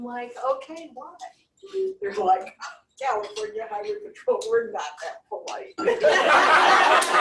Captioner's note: laughter